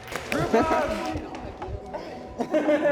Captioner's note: audience clapping; all laughing